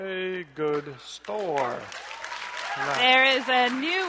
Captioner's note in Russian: бурные аплодисменты